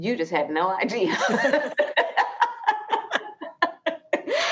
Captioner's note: both laughing